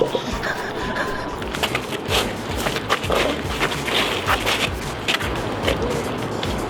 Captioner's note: footsteps that mimic a dance studio